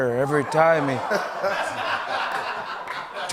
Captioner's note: laughter